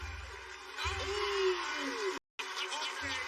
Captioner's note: laughs